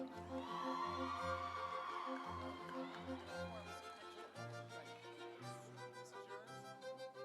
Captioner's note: audience cheering; instrumental music